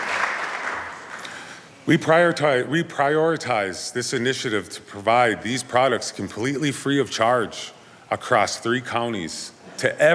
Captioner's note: applause